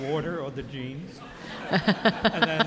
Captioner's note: audience laughing